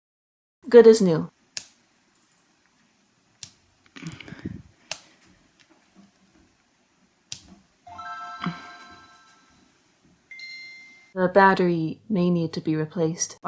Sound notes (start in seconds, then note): 1.5 click; 3.4 click; 4.0 sigh; 4.9 click; 7.3 click